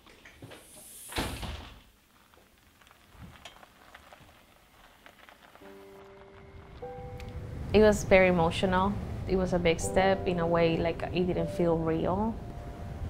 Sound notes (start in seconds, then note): 1.0 door slams shut